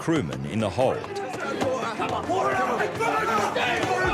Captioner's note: men screaming